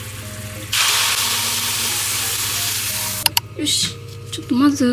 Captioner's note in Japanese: 冷却してる音